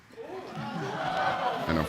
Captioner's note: audience groans